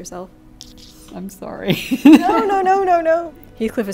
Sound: laughs

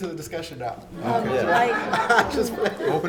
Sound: everyone laugh

